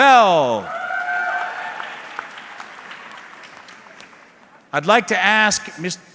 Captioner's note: audience cheering